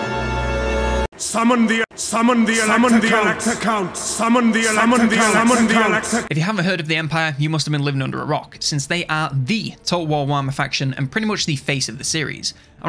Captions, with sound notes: - Summon the elect accounts! (voice echoing) - If you haven't heard of the Empire, you must have been living under a rock since they are the Total War Warhammer faction and pretty much the face of the series.